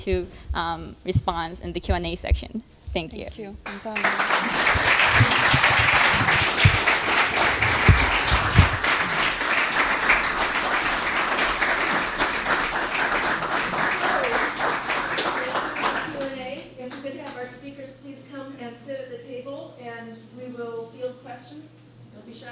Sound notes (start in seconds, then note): 5.2 applause